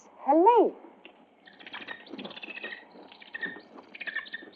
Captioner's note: bird chirping